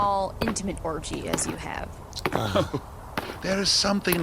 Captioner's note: small chuckle